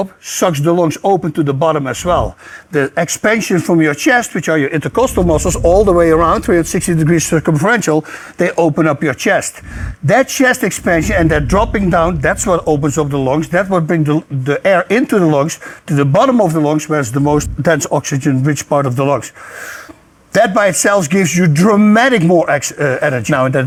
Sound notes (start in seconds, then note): 19.3 deeply inhales